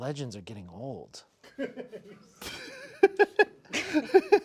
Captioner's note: crew member laughing; snickering